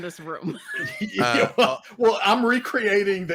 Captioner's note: laughs